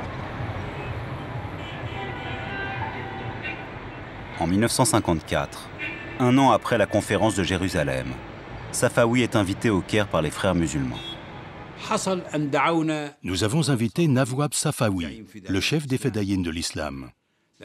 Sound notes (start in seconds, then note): 0.7 traffic noises